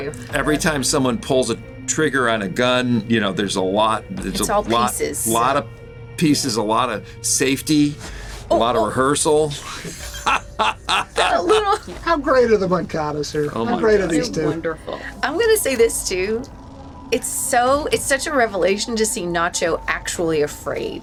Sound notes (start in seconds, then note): 9.3 laughing